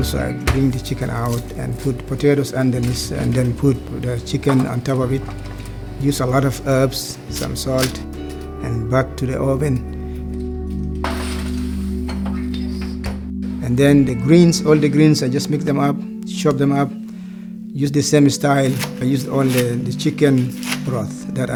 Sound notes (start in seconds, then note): 9.9 music fades; 11.0 oven closing; 11.0 plate clashing